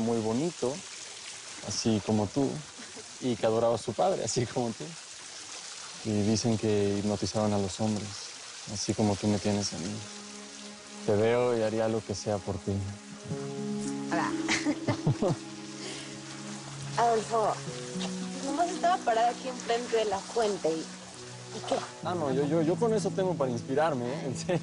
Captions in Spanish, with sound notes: QUE CANTA MUY BONITO, ASI COMO TU, Y QUE ADORABA A SU PADRE, ASI COMO TU... Y DICEN QUE HIPNOTIZABA A LOS HOMBRES, ASI COMO TU ME TIENES A MI. TE VEO Y HARIA LO QUE SEA POR TI. - !AH! [Risas] ADOLFO, NOMAS ESTABA PARADA AQUI, ENFRENTE DE LA FUENTE. ¿Y QUE? - !AH, NO! YO... YO CON ESO TENGO PARA INSPIRARME.